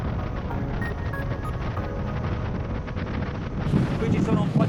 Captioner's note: yacht speeding